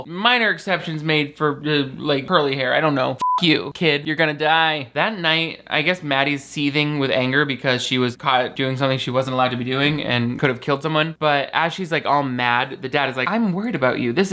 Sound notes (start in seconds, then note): 3.2 beep